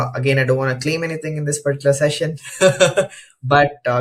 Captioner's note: laughs